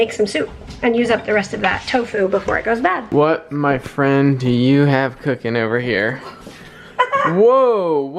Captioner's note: laughs